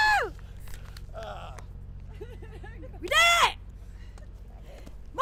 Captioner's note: cheer; laugh